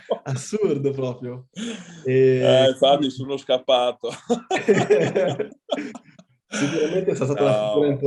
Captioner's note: laughs; laughs